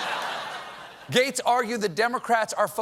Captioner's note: booing